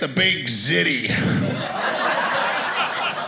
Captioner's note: audience laughing